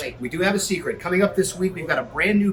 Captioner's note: none